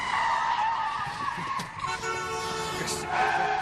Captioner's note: brakes squeaIing; cars honking